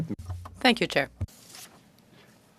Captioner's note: speaking French